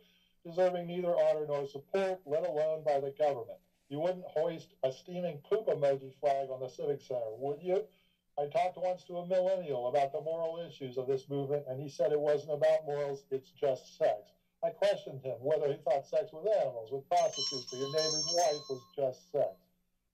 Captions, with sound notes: Preserving neither honor nor support let alone by the government. You wouldn't hoist a steaming poop emoji flag on the civic center, would you? I talked once to a millennial about the moral issues of this movement, and he said, it was no bad morals, it's just said. My questions of whether if I said to them-- [bell ringing] --wife was just sex.